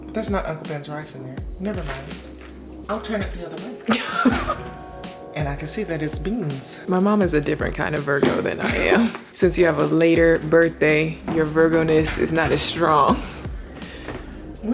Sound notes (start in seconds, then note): 3.8 laughing